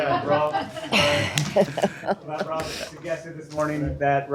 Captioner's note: laughter